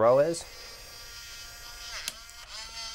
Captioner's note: buzzing